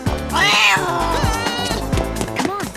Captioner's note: growling